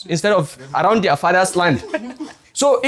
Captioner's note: laughs